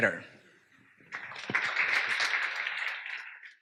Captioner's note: applause